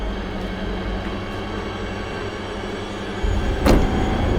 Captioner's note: tense suspenseful music; footsteps crushing snow; truck door thuds